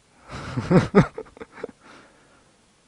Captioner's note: laughs